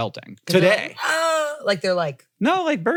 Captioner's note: squawks